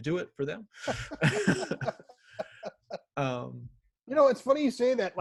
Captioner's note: laughing